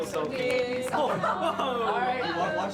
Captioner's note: applause; overlapping chatter, laughter